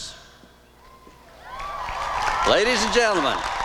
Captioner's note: applause and cheering